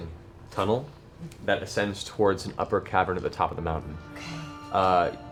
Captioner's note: none